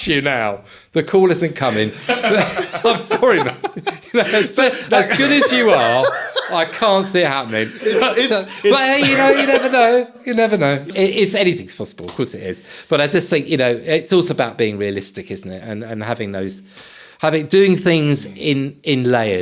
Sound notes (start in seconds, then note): 2.4 laughing; 8.8 laughing